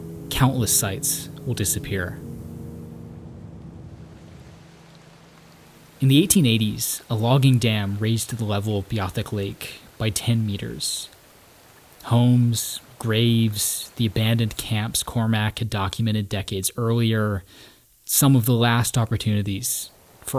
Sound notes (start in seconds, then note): 2.8 somber music fades out; 4.0 water sloshing